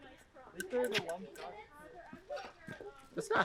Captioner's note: hits glass